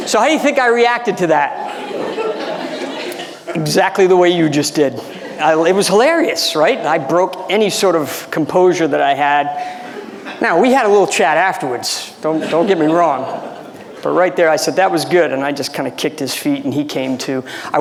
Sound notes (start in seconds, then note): 1.5 audience laughing